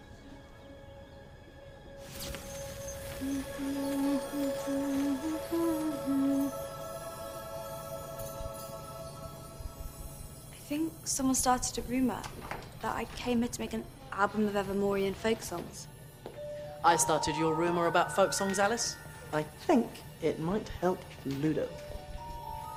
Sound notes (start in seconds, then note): 2.0 magical buzzing sound; 3.1 alice humming